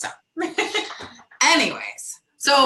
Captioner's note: laughs